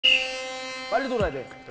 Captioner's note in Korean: 호루라기 소리